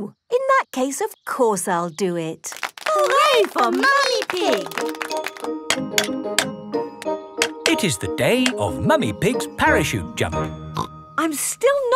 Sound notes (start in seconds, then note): 5.7 clanking